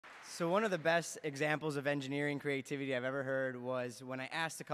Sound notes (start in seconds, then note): 0.0 applause